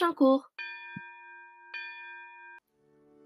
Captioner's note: bell rings à end of class